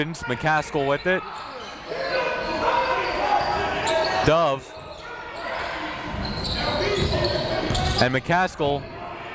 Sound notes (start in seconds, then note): 2.3 coaches yelling; 2.3 crowd talking